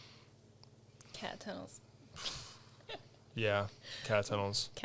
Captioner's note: laughs